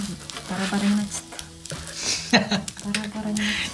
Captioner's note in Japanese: 笑い